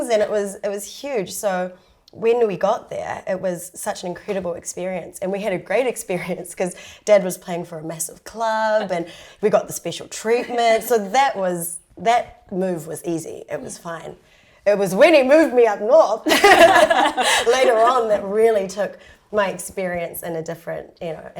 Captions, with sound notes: And it was— it was huge, so when we got there, it was such an incredible experience. And we had a great experience cos Dad was playing for a massive club and we got the special treatment. So that was... that move was easy. It was fine. It was when he moved me up north (LAUGHS) later on that really took my experience in a different,